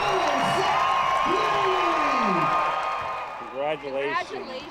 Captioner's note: cheers and applause